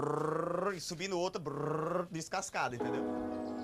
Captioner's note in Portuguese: ruído com a boca